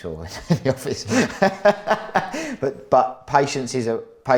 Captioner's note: laughs